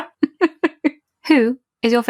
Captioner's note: laughs